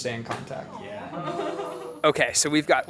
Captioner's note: group chattering and laughing